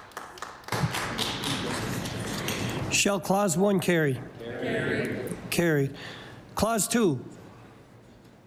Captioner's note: applause